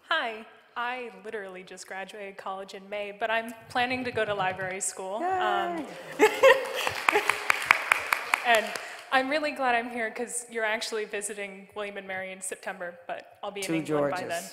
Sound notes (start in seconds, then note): 5.2 laughing and applauding